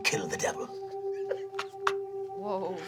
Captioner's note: laughing